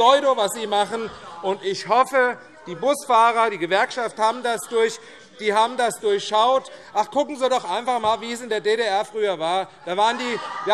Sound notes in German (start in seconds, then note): 1.5 Zurufe DIE LINKE; 10.5 Lachen DIE LINKE - Zurufe: Polemik! - Weitere Zurufe